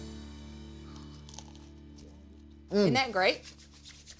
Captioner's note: moist crunch